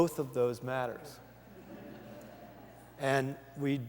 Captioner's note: laughter